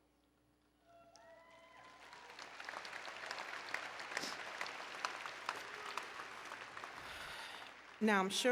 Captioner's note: applause and Cheering